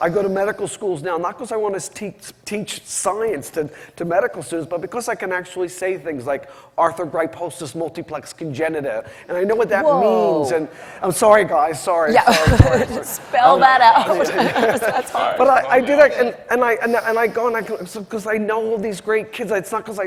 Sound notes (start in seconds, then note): 16.9 laughs